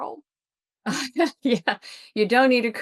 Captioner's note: laughs